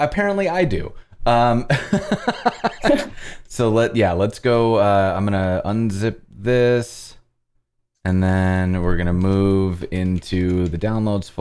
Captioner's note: laughter